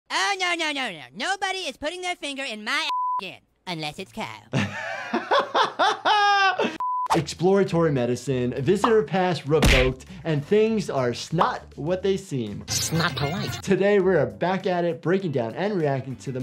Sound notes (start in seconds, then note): 2.9 beep; 4.5 laughs